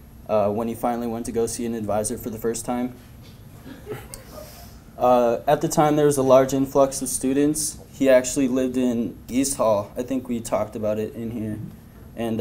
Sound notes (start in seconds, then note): 3.6 laughter